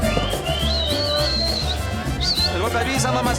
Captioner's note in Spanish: Silbidos